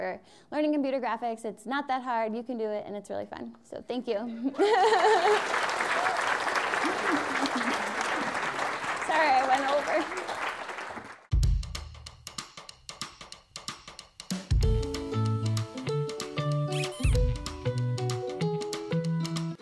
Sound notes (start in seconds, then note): 4.8 applause